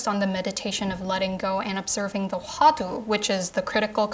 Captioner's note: speaking Korean